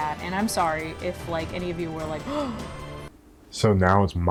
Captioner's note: gasp